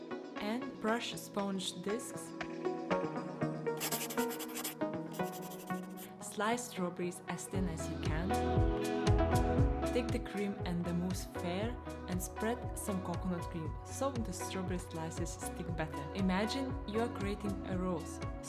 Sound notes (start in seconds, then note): 3.8 pen scratching